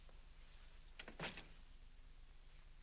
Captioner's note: door closes